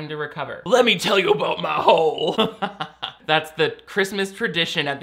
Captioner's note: laughs